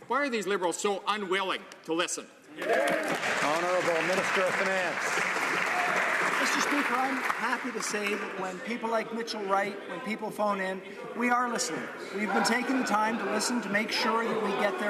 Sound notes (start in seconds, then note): 6.0 some Applause